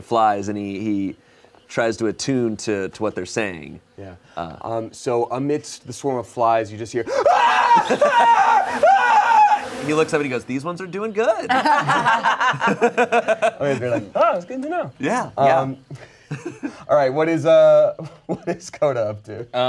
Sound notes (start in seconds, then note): 7.0 screams; 11.4 everyone laughs